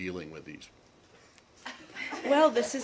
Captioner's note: laughter